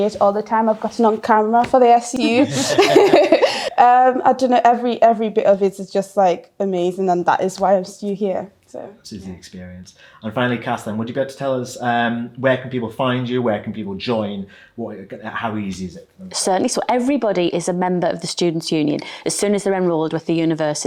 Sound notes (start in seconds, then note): 2.2 laughs; 2.3 laughing